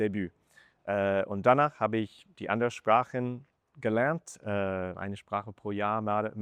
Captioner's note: in German